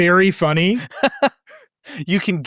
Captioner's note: laughing